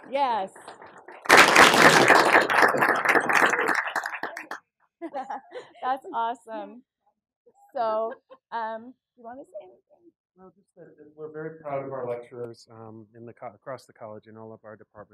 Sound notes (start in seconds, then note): 0.0 applause; 0.2 laugh; 7.6 laugh